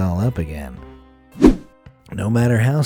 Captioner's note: air whooshing